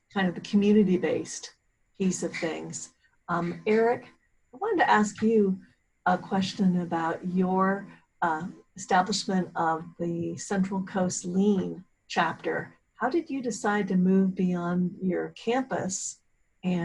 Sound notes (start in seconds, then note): none